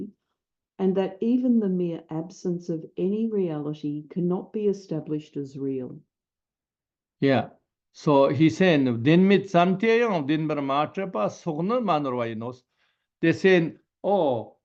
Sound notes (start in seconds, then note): 10.8 tibetan